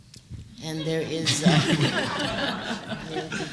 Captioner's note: laughter